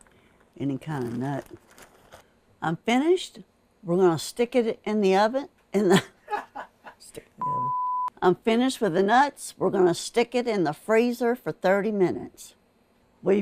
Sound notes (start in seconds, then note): 5.9 laughs